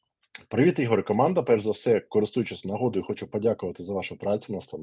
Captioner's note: Ukrainian